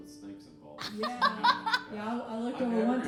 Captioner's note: laughing